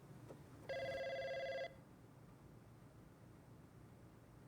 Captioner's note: telephone ringing